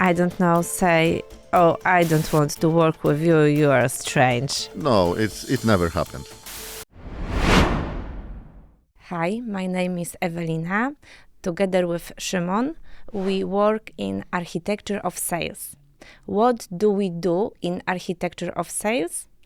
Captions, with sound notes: I don't know, say, "Oh, I don't want to work with you, you are strange?" No, it never happened. [logo whooshes] Hi, my name is Ewelina. Together with Szymon, we work in Architecture of Sales. What do we do in Architecture of Sales?